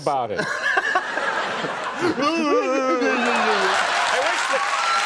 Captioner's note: audience laughter